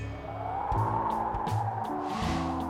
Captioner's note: wind blowing